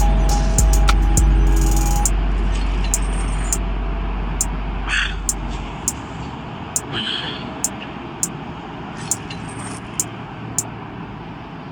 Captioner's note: sad music playing; noisy city